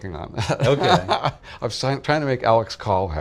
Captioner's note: laughing